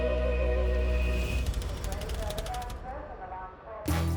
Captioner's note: text clicking; bright energetic music